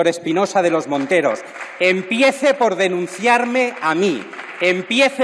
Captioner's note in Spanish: aplausos